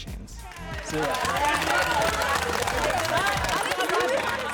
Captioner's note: crowd applause